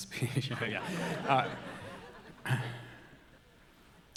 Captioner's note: audience laughing